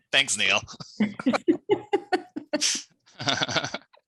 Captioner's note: laughing